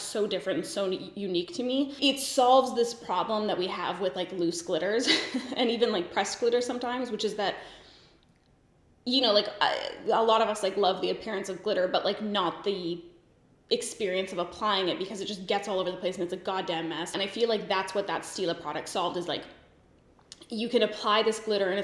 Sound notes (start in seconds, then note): 5.0 giggles